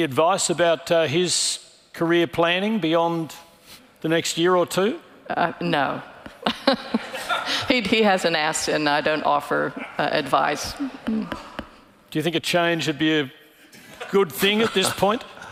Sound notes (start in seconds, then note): 6.3 laughing; 6.4 audience laughing